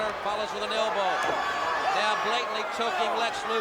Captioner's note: crowd cheering